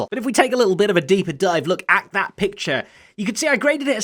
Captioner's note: none